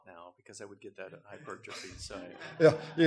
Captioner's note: audience laughter